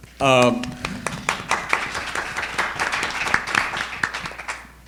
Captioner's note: audience applauding